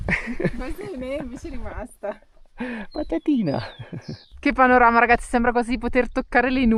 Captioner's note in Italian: risate